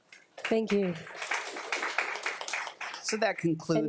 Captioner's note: audience applauding